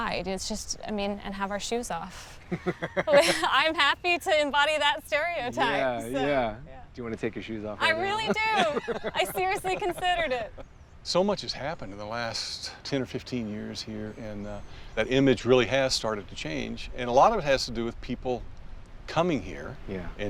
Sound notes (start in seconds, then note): 2.4 Baratunde laughs